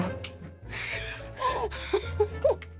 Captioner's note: laughing